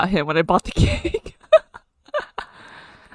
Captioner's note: laughs